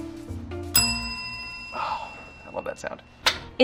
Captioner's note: bell dings